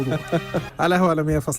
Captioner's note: laughers